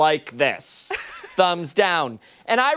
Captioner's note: laughter